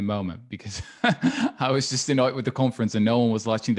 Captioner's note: laughing